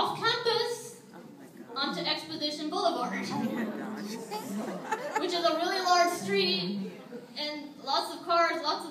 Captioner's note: audience laughs